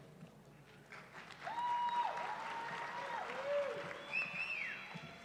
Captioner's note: cheering